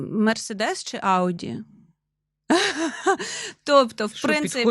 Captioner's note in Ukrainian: сміх